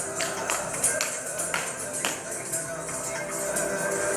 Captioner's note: coins jingling